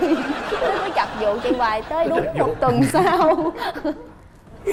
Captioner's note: laughing